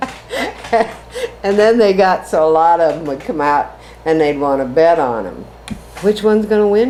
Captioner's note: laughs